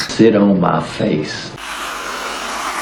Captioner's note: squirty Cream Noises